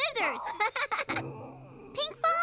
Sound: Pinkfong chuckles

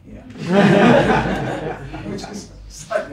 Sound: laughter

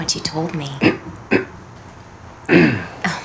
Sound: clears throat

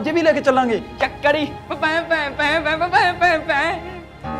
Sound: Saman makes piano sounds

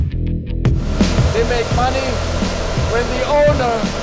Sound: upbeat instrumental music; fans whirring

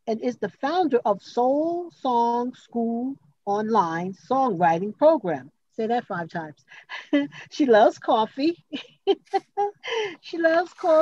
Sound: chuckles

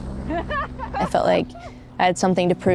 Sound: both laughing

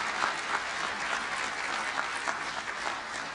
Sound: applause

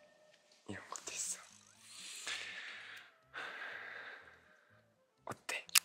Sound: deep breath

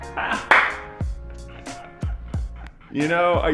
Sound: laughing

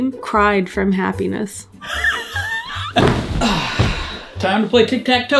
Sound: laughs

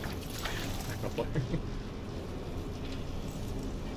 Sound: nervous chuckle

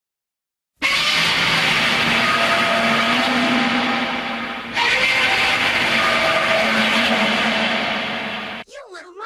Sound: roaring

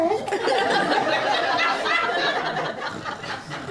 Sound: audience laughter

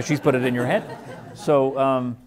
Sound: laughing

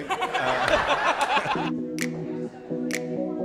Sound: audience laughing; smooth music

